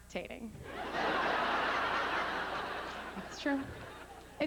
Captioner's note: howling laughter